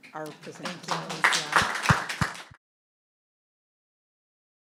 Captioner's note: audience applauding